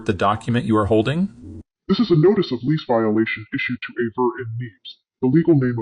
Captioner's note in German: verzerrt